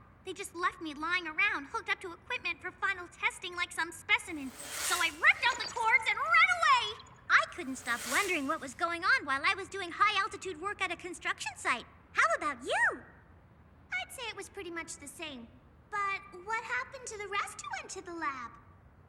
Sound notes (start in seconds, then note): none